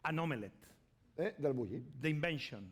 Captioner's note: speaking spanish